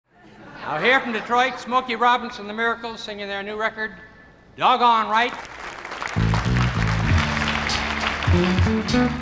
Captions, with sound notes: - Now here from Detroit, Smokey Robinson and The Miracles singing their new record "Doggone Right." (audience claps)